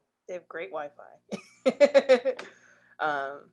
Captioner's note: laughs